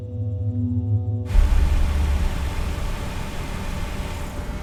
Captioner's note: engine rumbling